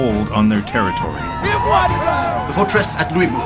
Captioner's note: soldiers shout